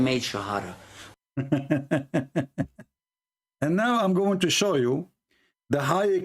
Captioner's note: Ketawa